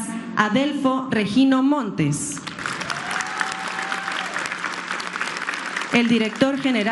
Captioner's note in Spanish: aplausos